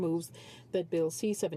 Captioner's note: speaking French